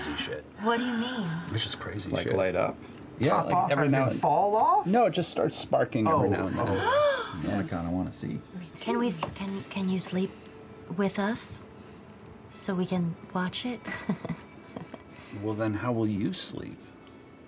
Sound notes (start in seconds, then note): 1.3 gasps; 6.7 gasps; 13.8 chuckles